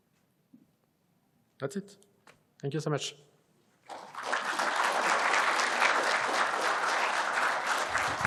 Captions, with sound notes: That's it. Thank you so much. [APPLAUSE]